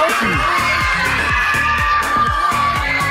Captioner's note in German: Jubel